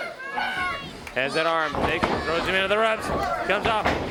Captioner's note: crowd chatter